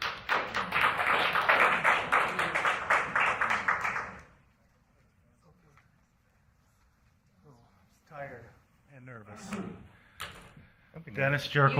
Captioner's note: applause